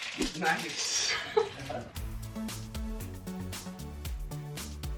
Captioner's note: laughs